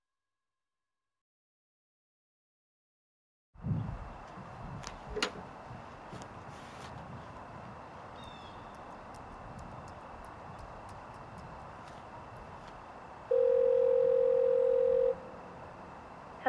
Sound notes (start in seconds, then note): 5.3 phone rattling; 8.1 distant bird cawing; 13.3 line buzzing